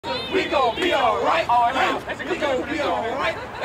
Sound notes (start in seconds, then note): 0.0 crowd